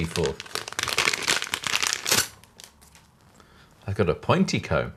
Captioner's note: plastic crinkling